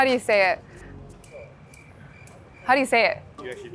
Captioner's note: crickets chirping